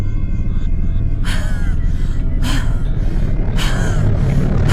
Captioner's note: heavy breathing